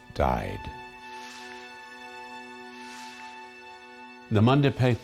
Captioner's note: pensive music; screen whooshing